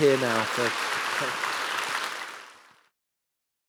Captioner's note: applause